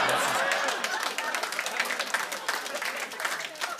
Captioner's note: laughter; applause